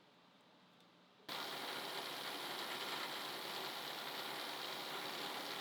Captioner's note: machine whirring